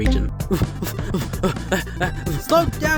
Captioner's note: panting